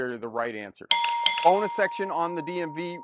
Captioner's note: bell rings